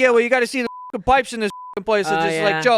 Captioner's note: beep